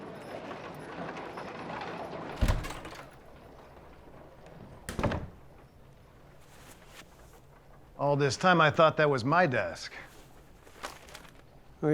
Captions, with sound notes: [WAGONS RATTLING] [DOOR OPENS AND CLOSES] ALL THIS TIME, I THOUGHT THAT WAS MY DESK.